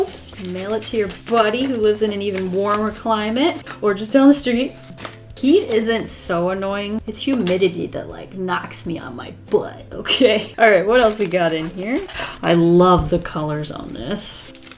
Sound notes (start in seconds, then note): none